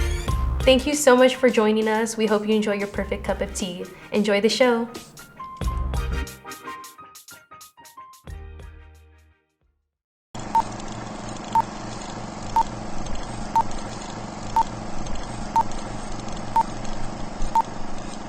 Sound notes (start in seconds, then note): 10.7 beeping